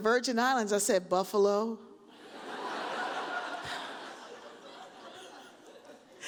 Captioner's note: audience laughs